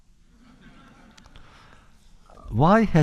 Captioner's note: laughter